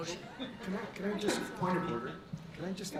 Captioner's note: board laughs